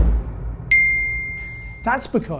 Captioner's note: beep